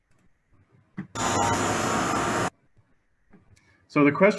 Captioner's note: machine whirring